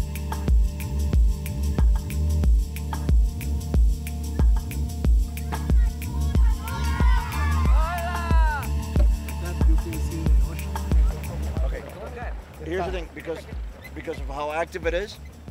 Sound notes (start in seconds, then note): 5.5 children cheering